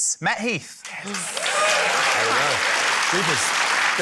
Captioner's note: cheering, applause